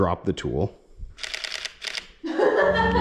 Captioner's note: fast shutter noises